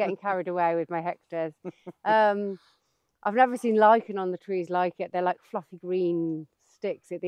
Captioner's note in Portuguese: risos